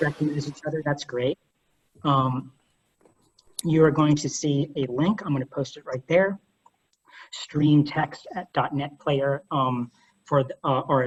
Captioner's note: off mic